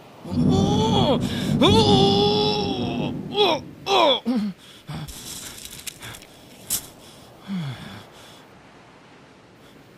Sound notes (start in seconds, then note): 0.3 stomach pain thunder; 4.3 desperate grunts